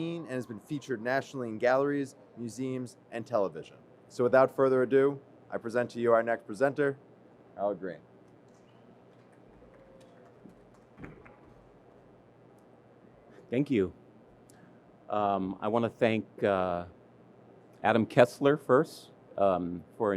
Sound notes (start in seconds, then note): 8.4 audience clapping